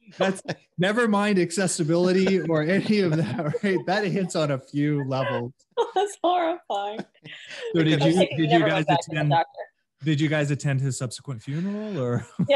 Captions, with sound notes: - Nevermind accessibility or any of that or hit, that hits on a few levels. - (laughs) It's so horrifying. I think you never got that from a doctor. - Did you guys attend his subsequent funeral? Or...